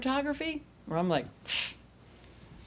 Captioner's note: scoffs